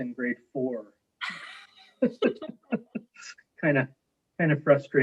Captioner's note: laughing